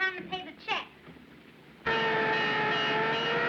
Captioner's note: siren, Bell Clanging